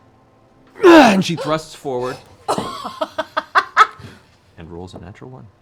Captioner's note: grunts